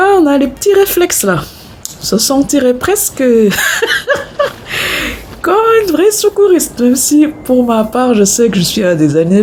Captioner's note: laughs